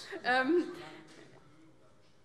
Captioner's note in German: Zuruf